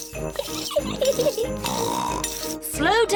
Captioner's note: giggles and snorts